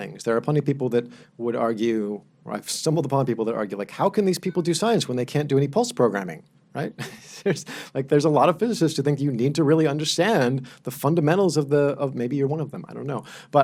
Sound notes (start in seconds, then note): 7.1 laughs